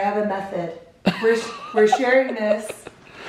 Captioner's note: laughs loudly